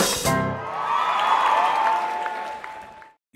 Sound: applause

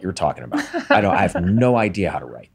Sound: laughs

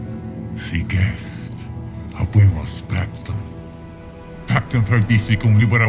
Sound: speaks in foreign language

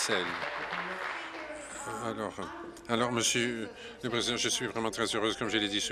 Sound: applause

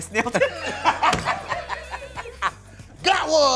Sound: all laughing

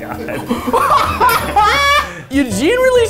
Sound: laughing; bell rings

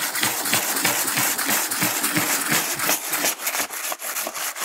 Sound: banging and scraping

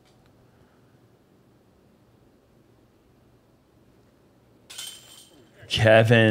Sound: silence

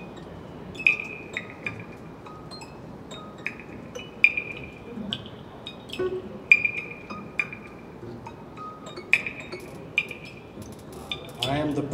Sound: cosmic sounds

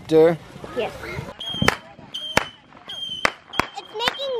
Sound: fireworks screeching and popping

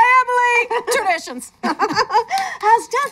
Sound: both laugh

